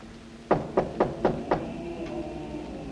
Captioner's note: knocking on door